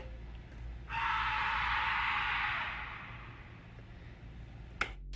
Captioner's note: woman screams